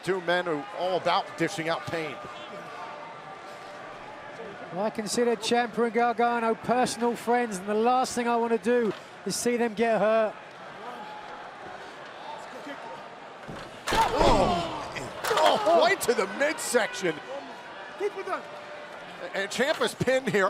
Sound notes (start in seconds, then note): 9.8 crowd chatter